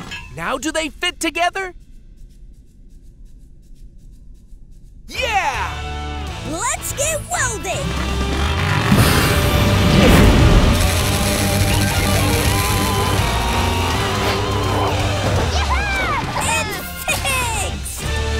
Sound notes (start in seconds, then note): 10.8 crackling